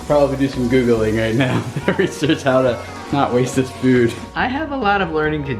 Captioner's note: laughs